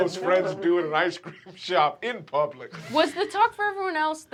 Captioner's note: laughs